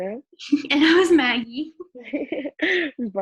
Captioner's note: laughs